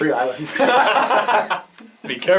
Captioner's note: all laugh